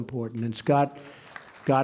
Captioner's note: applause